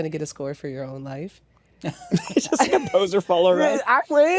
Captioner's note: laughter